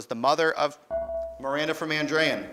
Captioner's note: beeping